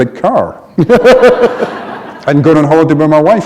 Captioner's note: laughter